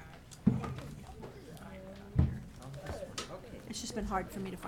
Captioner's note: people chattering